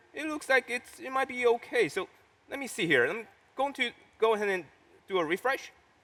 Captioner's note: none